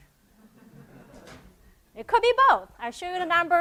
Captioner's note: laugh